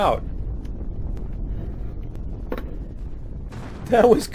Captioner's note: explosion